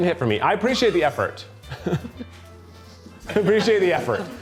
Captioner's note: chuckles